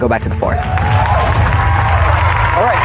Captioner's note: cheering